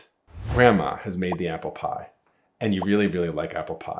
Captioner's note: air whooshing